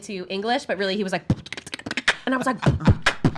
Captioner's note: fast paced beatboxing